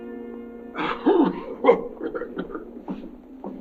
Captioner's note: King coughing